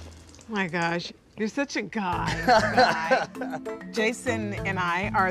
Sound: laughing

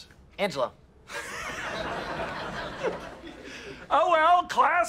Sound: SHEFFIELD and class laughs

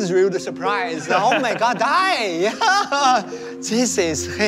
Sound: chuckles

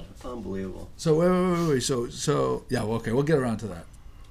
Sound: voiceover

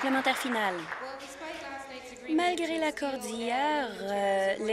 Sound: applause

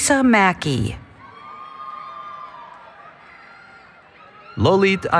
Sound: cheering

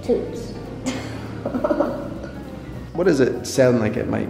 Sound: laughing

